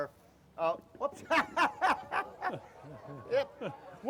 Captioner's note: laughs